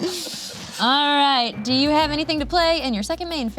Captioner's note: laughs